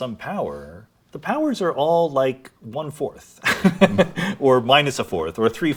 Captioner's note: laughs